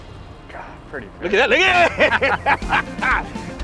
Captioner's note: laughing; upbeat music